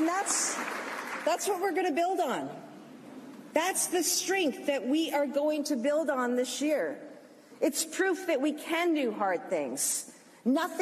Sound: applause

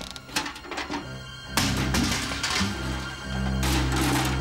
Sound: door hinges squeak; bucket clatters

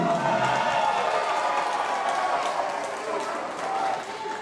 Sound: crowd cheering

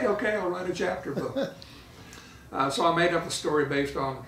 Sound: laughing

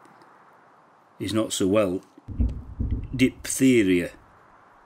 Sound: wind whistles, distant explosions

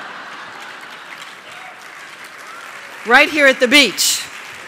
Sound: laughter & applause

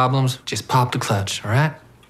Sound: none

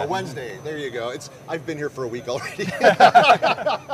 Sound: laughs

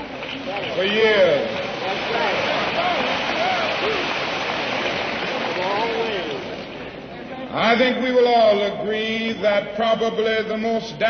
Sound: applause

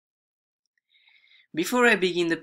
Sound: breaths

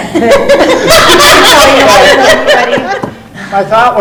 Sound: laughs

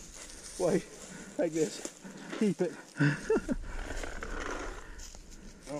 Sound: laughter

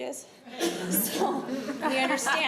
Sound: laughter

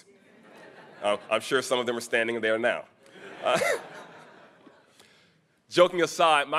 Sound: chuckles

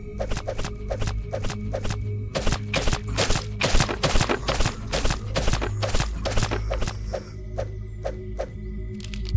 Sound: gunfire

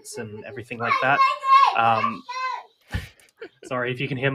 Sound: child shouting

